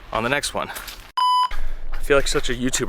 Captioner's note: screen beeps